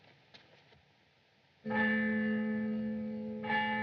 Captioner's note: tolling